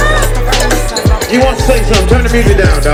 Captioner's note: speaker On Microphone